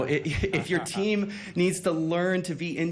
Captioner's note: laughs